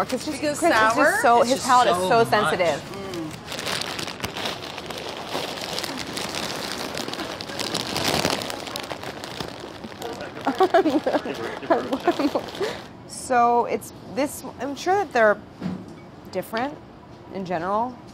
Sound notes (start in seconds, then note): 3.8 bags rustling; 10.4 laughs